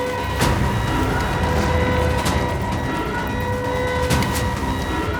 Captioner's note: siren is sounding